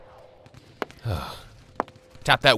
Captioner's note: Albert sighs